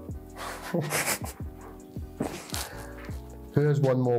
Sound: both laugh

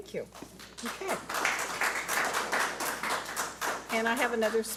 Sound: audience applauds

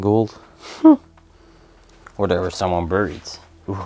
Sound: chuckles

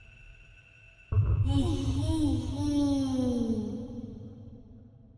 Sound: Hu Tao in ghastly tone

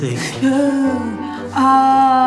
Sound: gasps

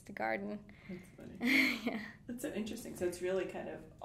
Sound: laughing

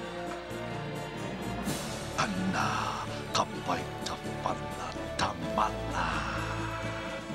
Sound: non-english speech

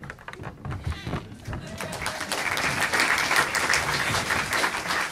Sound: audience applauding

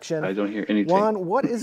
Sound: laughs

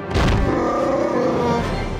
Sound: roars

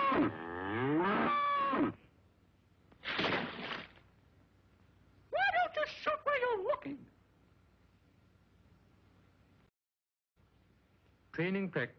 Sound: yelps

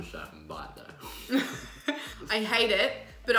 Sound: laughing

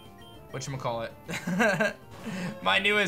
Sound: laughs

